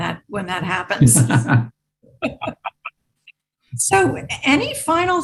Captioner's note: participants laughing